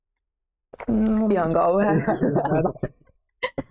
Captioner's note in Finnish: kaikki nauravat